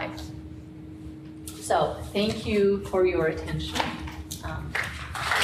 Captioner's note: audience clapping